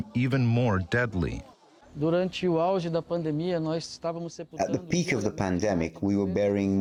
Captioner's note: through translator